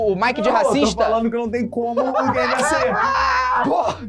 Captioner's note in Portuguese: risadas